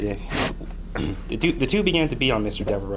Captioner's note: clears throat